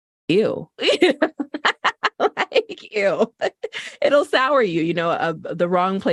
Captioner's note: laughter